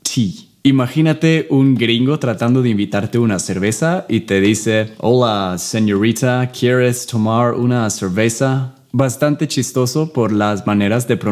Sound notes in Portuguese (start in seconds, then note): 5.7 Sotaque imitado